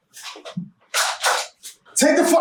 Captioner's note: gun Cock